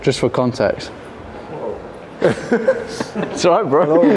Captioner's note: group laughs